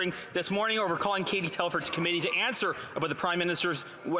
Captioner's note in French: voix de l'interprète